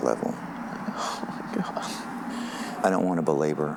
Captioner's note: sobbing